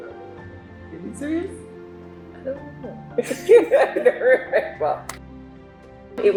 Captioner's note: laughs